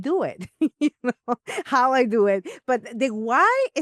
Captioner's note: laughs